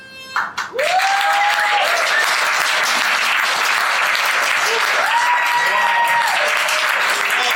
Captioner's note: cheers and applause